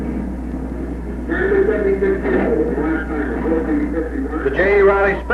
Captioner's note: track announcer echoing